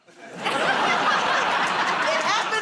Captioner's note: laughter